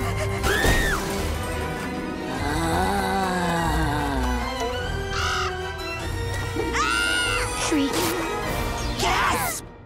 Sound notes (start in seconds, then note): 0.4 screaming; 2.2 moaning; 5.1 squawking; 6.7 screaming